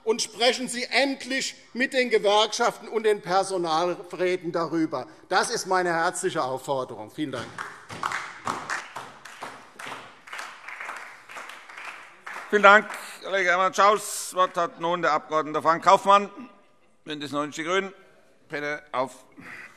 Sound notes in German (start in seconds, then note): 7.3 Beifall DIE LINKE, SPD und vereinzelt Freie Demokraten